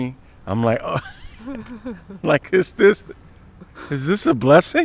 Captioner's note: both laughing